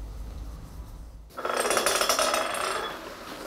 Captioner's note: rattling